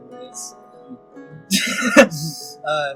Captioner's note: laughter